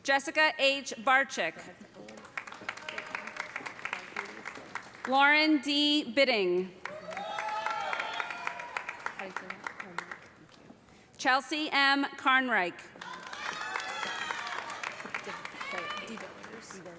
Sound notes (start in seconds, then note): 1.9 applause; 6.8 cheers and applause